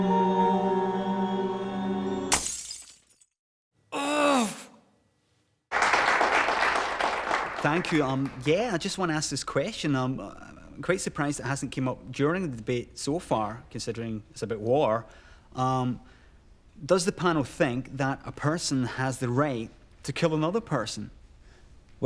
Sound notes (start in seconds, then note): 2.3 glass smashes; 5.7 applause